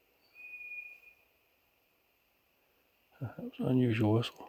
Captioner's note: birds whistling